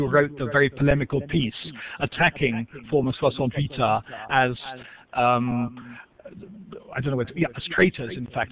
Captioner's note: foreign language